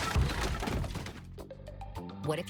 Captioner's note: furniture crumbles